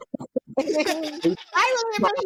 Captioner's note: laughter